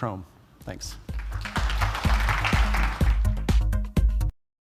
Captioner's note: applause